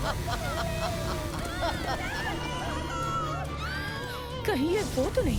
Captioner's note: laughing; townsponies screaming